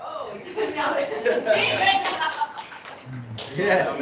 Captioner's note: laughing